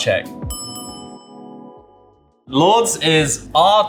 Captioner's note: dinging